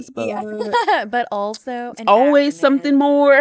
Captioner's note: laughs